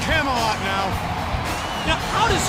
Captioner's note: crowd cheering